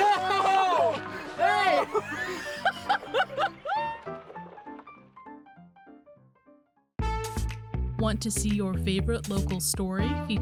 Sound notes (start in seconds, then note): 1.0 laughter